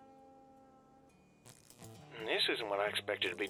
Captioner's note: wires sparking